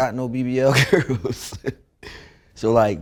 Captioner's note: laughs